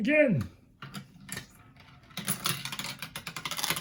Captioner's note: marble rattles on tubes